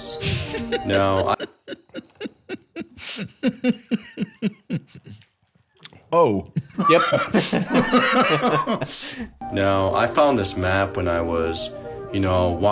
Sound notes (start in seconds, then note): 0.3 giggling; 6.6 laughs